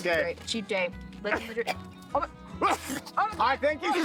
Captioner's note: coughing